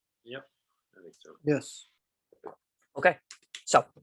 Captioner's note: bold Voice